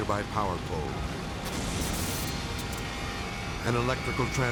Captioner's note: electricity sizzling